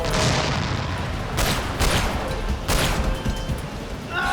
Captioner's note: gunshot